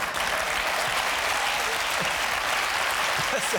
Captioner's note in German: Gelächter; Applaus